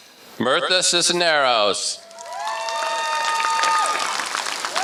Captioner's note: applause